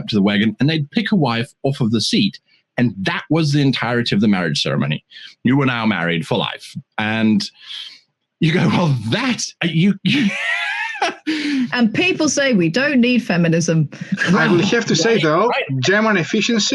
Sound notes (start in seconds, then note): 8.4 laughs